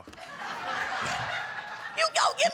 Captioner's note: audience laughing